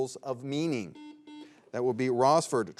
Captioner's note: buzzer beeps